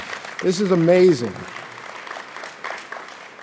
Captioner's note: audience applauds